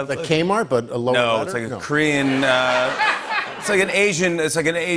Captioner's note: laughter